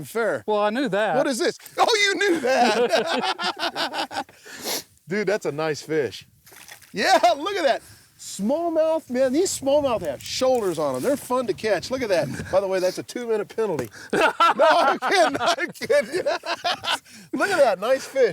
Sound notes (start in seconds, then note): 2.2 laughter